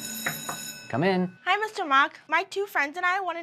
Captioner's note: knocking